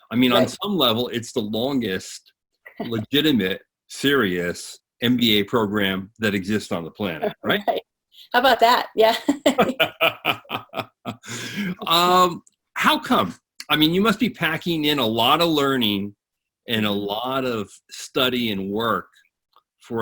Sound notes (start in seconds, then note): 8.9 laughing